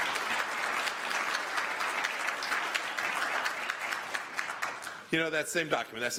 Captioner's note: applause